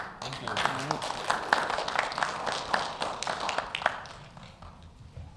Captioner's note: audience applauding